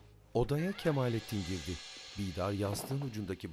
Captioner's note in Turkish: Kapı gıcırtısı sesi; Kapı kapanma sesi